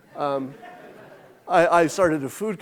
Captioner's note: audience laughing